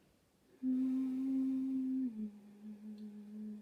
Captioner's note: soft eerie humming